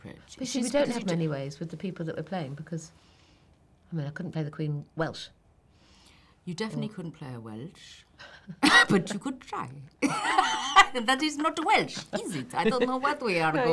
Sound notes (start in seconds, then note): 7.6 in Welsh accent; 10.1 in foreign accent